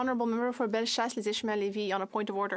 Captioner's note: speaking French